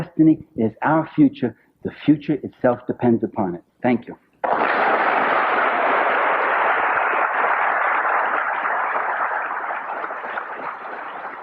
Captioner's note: applause